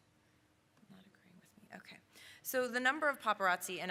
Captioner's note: whispering to self